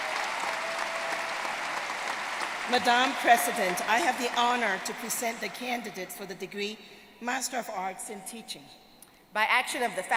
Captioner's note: applause